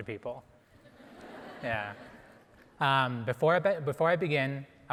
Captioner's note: audience laughing